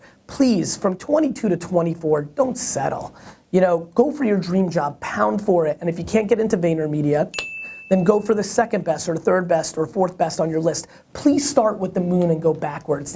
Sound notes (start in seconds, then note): 7.3 ping